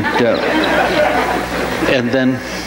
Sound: audience laughs

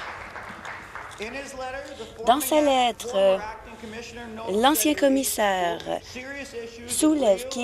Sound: applause

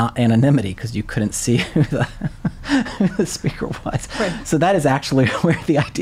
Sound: laughing

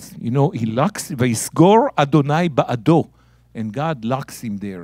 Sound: speaking in Hebrew

